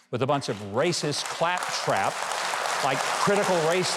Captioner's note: audience applauds